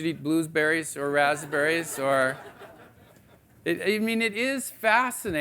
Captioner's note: audience laughing